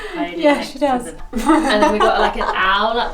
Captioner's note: laughs